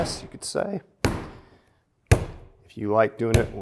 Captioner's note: dough pounding